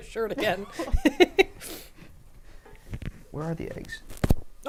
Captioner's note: laughing